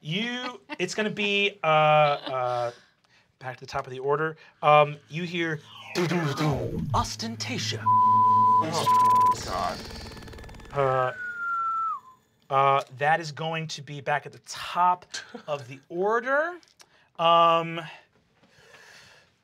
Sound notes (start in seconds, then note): 5.7 mimics sound waves; 7.4 beep; 10.6 whistles